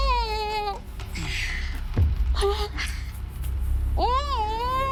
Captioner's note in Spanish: Quejidos ahogados